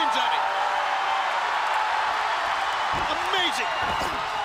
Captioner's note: crowd cheering